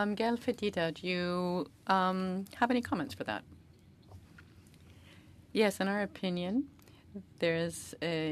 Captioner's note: speaking French